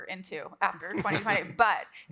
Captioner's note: everyone laughs